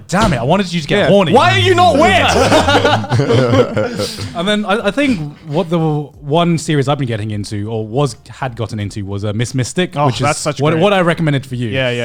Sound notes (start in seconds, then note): 3.9 laughing